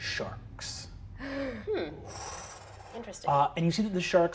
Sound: gasps

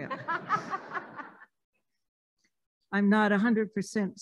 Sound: laughing

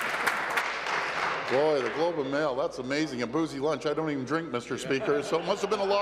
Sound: applause

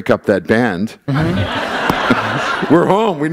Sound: laughter

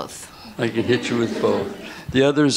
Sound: laughter

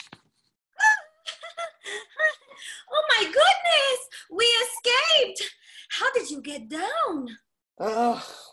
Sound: laughing

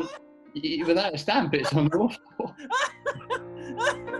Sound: laughter

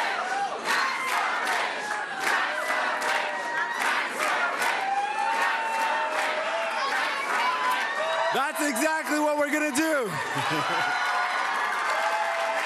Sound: chanting

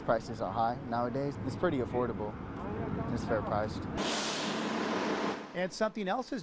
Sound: bus sound

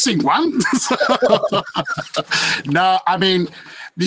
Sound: panelists laughing

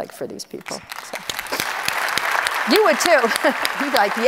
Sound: audience applauds

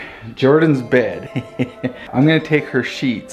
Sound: laughs

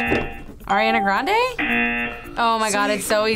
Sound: buzzer

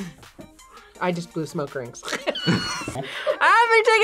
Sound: laughs

